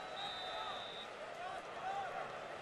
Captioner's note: whistle blows